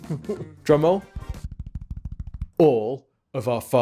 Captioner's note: chuckles; rhythmic tapping